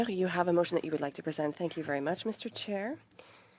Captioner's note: speaking French